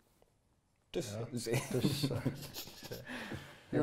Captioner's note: laughs